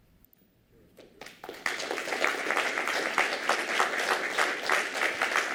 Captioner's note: applause